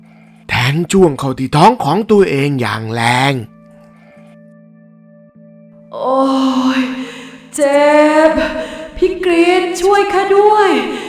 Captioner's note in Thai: เสียงหายใจอ้าปากค้าง